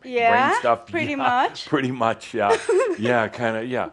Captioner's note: she giggles